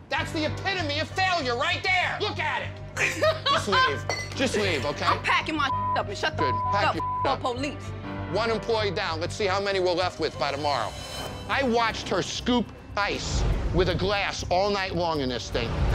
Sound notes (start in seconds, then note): 3.0 laughing; 5.6 beep